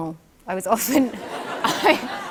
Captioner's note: laughter